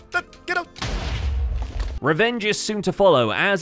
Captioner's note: TNT explodes